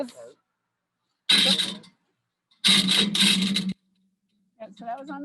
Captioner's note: metal clattering